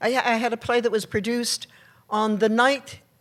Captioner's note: none